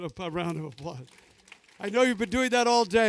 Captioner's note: applause